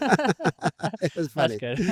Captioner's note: laughing